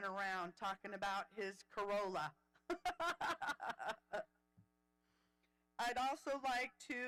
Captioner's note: laughing